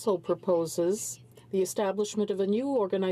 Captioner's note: speaking french